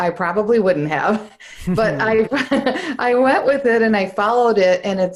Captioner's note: laughs